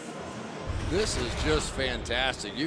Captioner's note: pa announcement